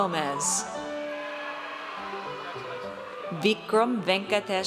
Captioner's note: audience cheers